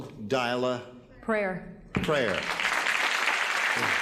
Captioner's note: applause